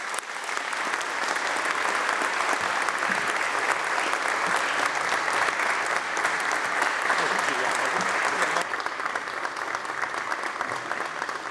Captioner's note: applause